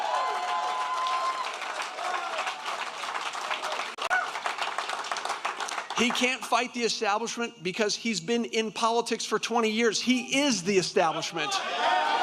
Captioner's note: applause